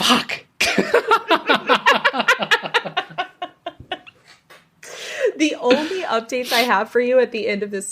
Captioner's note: laughs